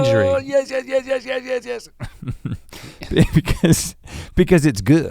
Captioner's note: chuckles